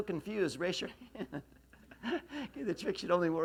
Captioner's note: laughs